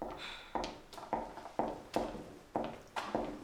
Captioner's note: high heeled footsteps